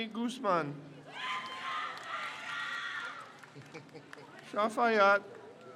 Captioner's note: crowd cheers